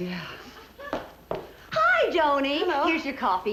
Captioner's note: footsteps entering